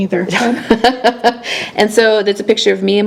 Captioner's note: laughs